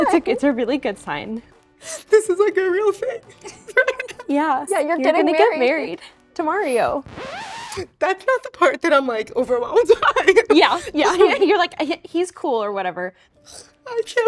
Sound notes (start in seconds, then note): 4.2 crying; 6.8 record scratches; 9.8 laughs